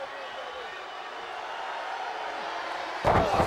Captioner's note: crowd cheering; body thudding